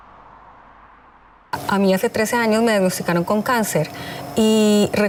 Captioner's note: speaking Spanish